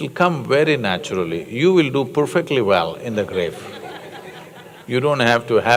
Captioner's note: few laugh